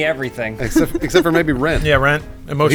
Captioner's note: laughs